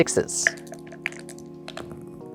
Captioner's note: dice rattling; dice rolling; dice clattering